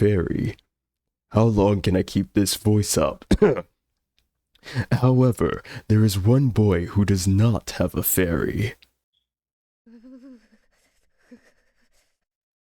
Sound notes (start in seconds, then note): 3.2 coughs